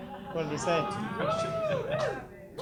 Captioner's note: audience laughs and cheers